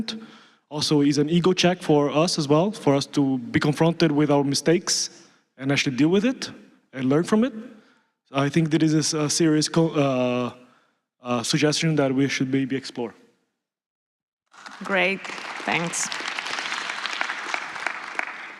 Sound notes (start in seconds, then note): 14.5 applause